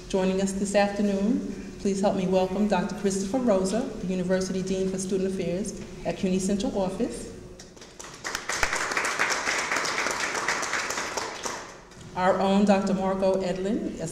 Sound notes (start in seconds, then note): 7.8 audience applauds